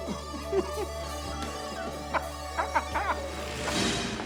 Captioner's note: laughing